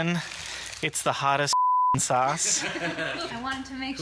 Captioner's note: laugh